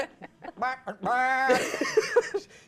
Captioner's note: man in blue shirt mocks goat bleating; host laughs